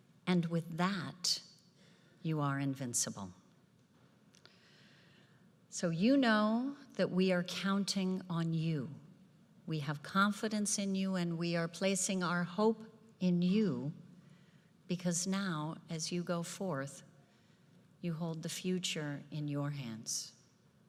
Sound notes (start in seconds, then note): none